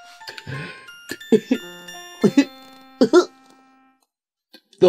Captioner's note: sobbing